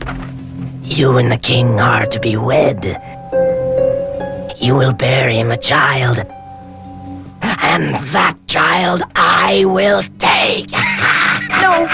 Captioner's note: cackles